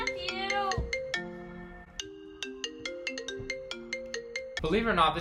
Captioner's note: FaceTime Ringing